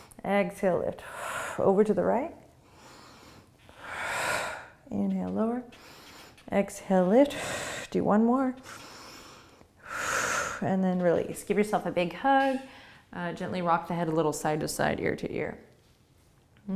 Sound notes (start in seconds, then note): 2.6 deep breathing; 8.6 breathing